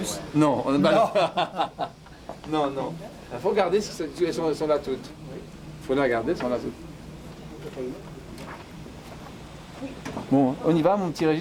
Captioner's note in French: rires